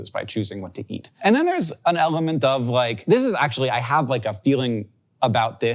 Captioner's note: none